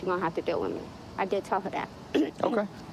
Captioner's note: clearing throat